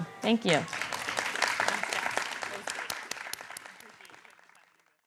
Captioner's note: applause